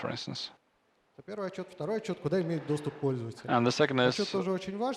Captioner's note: speaking russian